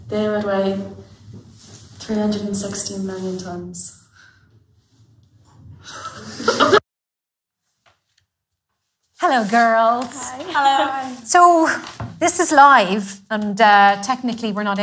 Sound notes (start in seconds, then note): 5.9 laughes